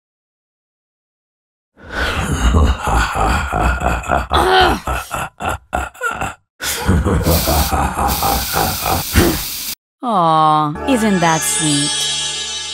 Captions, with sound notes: huahahahha *angry noises* hahahahahaa HUH? Aww, isn't that sweet?